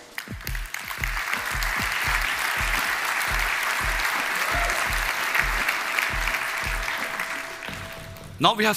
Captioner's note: Applause; 掌聲